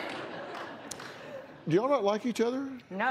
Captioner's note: laughter